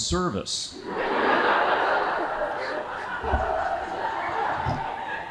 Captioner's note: audience laughing